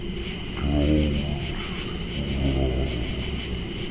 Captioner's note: growling sound